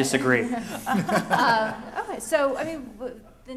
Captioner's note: laughter